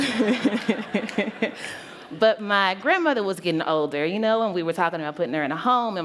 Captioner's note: laughter